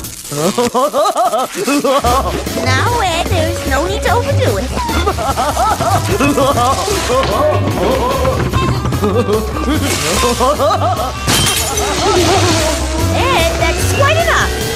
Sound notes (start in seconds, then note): 1.1 laughing; 4.6 laughing even more